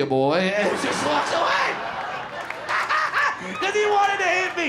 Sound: laughs

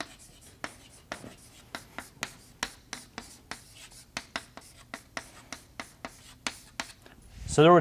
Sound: chalkboard writing

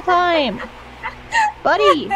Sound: literally just laughing

